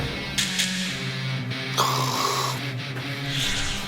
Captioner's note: takes a sniff…